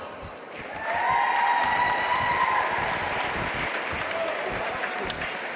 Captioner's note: audience cheering and applauding